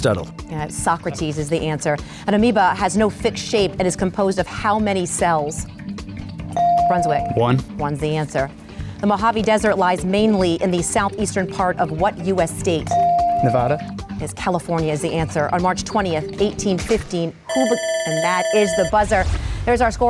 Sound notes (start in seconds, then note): 6.6 bell dings; 13.0 bell dings; 17.5 buzzer rings